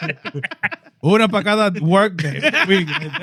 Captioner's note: speaking Spanish; laughter; speaking Spanish